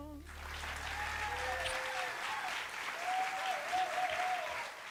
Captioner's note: applause